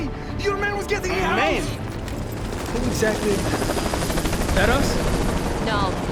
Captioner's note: he is interrupted by incoming helicopters